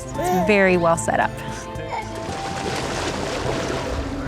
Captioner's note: baby babbles; water splashes